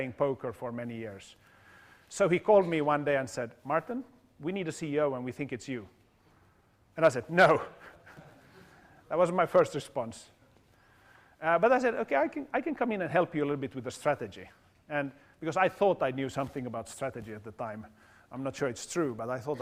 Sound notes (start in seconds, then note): 7.6 laugh